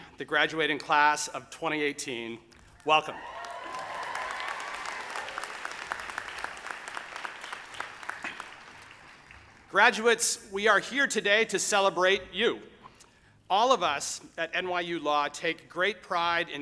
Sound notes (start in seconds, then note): 2.7 audience applauding; 2.9 audience cheering